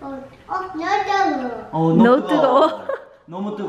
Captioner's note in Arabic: قالتها كوري وانجليزي